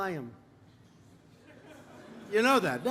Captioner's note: laughter